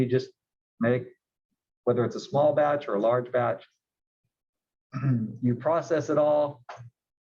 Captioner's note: cough